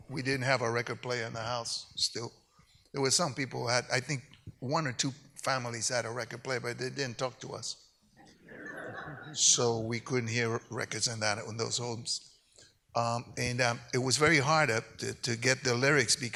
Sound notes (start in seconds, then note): 8.4 audience laughs